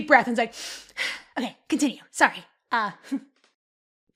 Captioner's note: takes a deep breath